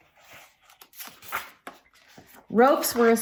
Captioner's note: turns page